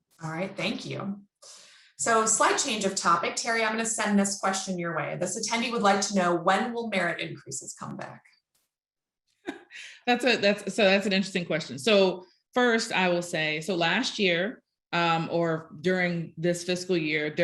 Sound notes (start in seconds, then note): 9.5 chuckling